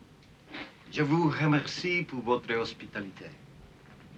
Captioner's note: speaking french